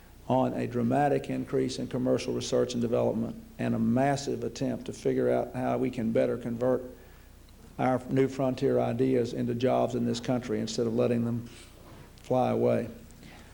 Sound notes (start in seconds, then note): none